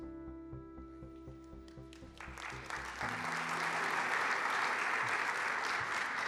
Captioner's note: applause